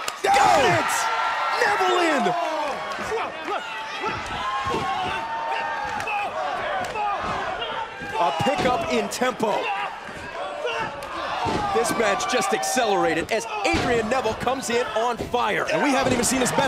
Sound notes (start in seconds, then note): 2.1 crowd chatter